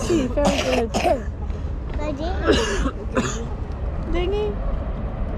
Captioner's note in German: hustet; spricht in einer fremden Sprache; murmelt